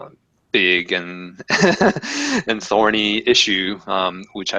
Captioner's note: laugh